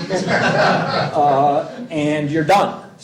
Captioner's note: laughter